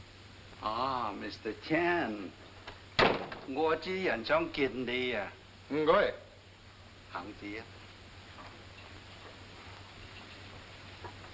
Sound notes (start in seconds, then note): 3.6 speaking in foreign language